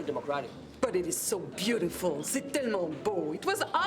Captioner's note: speaks French